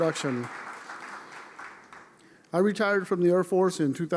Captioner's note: applause